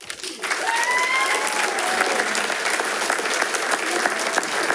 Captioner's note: attendees applauding